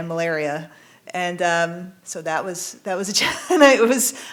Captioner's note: laughing